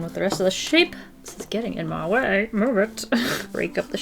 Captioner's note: laughs